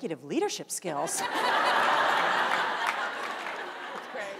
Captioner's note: panel and audience laughs